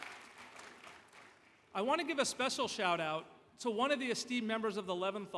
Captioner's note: applause